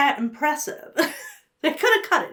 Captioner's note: chuckles